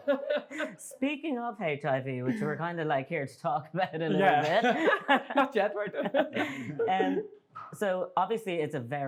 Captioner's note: general laughter